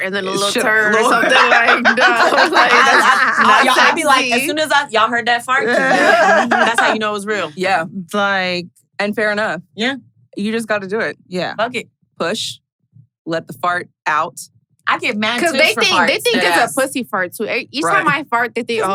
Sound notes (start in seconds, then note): 3.0 everyone laughing and talking